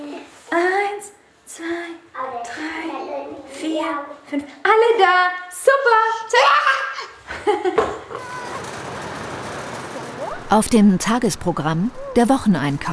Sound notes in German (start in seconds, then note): 6.5 Freudiges Kreischen